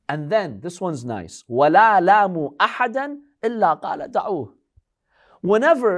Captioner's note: Arabic